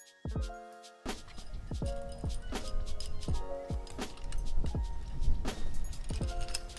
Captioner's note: climbing noises